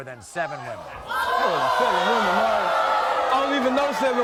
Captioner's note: audience oohs